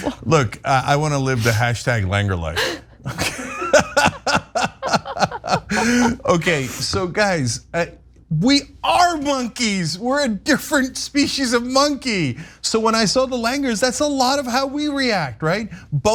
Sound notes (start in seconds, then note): 3.0 laugh